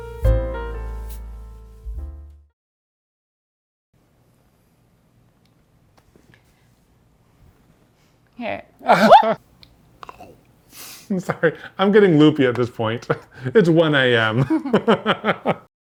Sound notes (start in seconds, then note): 8.8 laughs; 14.3 laughing